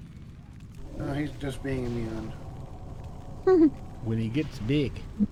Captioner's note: laughs